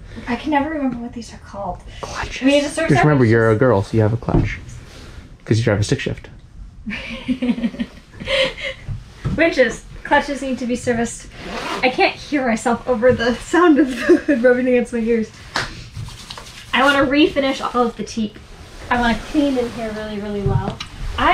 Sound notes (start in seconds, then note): 6.9 laughs; 15.5 claps; 15.5 rubs hands